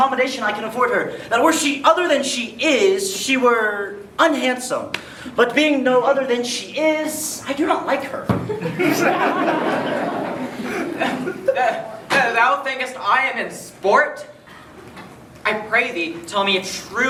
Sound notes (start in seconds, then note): 8.6 everyone laughs at the hilarious joke